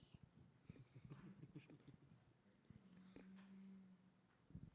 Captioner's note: interpreter laughing